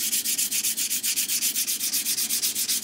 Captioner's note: fine grinding noise